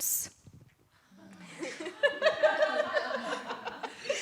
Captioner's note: laughter